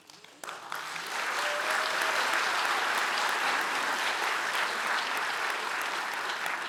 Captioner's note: audience applauding